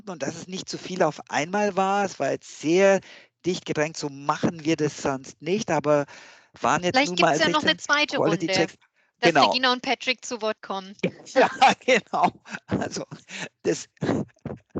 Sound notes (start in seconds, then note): 11.0 laugh